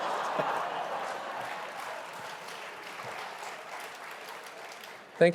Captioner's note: audience laughing; audience applauding